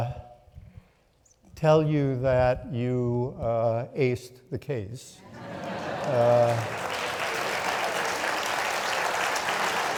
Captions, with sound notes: tell you that you aced the case. (audience laughing) (audience clapping)